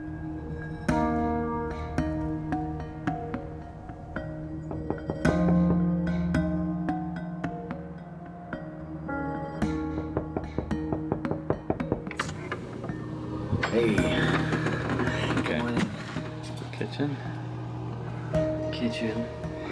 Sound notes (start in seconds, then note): 5.6 knocking